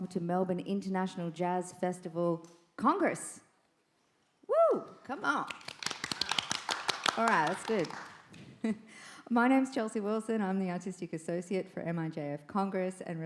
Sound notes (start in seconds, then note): 5.5 audience applauding; 8.7 chuckles